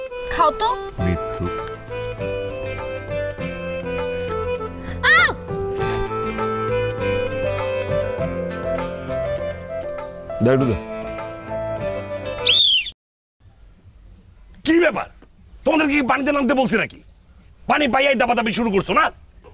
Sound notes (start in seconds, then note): 12.4 birds chirping